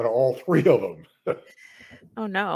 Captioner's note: laughs